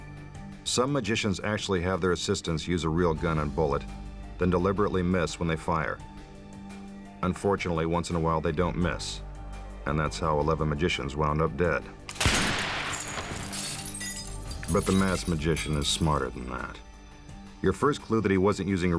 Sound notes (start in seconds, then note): 12.1 gun bangs; 12.1 glass shatters